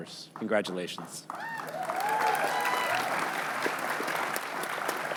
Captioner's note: cheering